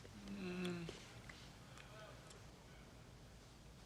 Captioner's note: moans